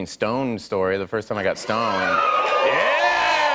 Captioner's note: cheers and applause